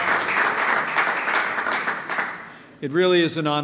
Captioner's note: applause